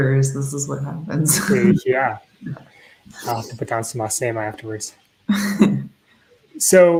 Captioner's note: Speaking Myaamian